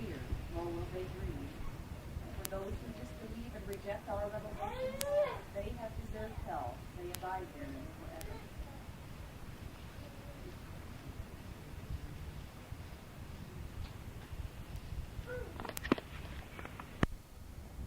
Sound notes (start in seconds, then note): 9.1 crowd talking; 14.6 crowd chattering